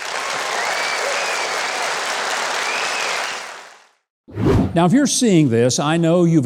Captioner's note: audience cheering and clapping